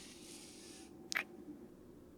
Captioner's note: kiss